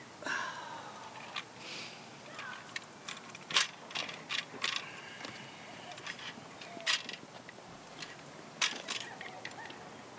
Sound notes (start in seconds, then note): 3.7 silver rod clunking